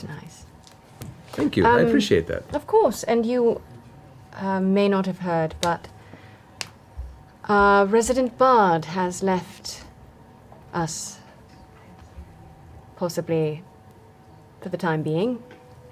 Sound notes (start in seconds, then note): none